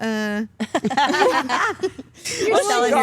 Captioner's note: Stephanie laughs